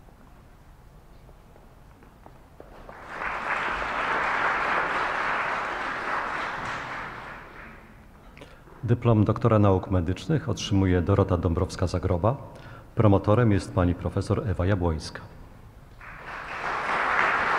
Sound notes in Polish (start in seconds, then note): 2.6 oklaski; 15.9 oklaski